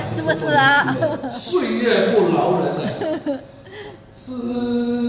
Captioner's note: haha